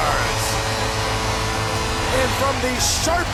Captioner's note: horn blowing